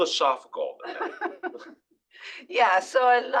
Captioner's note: laugh